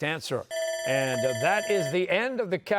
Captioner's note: bell ringing